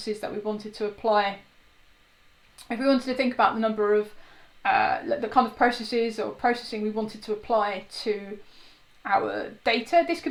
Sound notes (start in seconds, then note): none